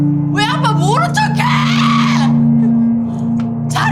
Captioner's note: somber music; speaking Korean